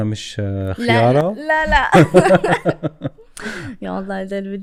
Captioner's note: laughter